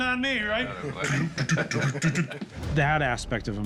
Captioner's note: mimicking hoof beats